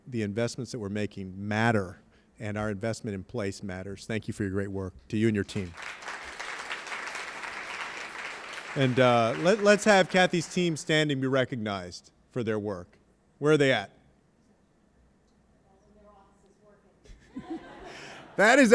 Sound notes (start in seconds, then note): 5.5 applause